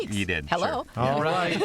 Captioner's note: laughs